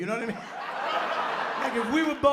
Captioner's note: laughter